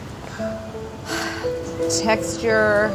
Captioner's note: sighing